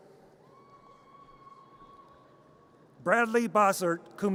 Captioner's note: audience cheers